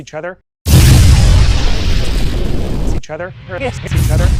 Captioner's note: laser beam sound effect; explosion